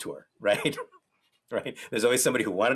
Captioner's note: laughs